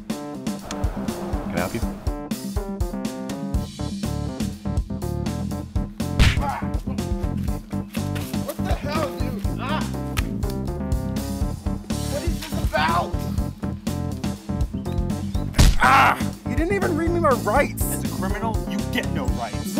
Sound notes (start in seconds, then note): 15.7 groan